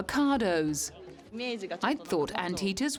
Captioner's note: speaks in foreign language